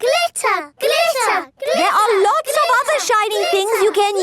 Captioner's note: chanting